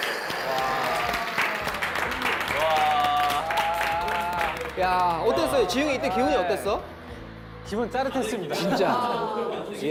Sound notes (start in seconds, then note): 0.0 clapping